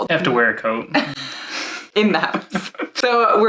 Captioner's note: laughing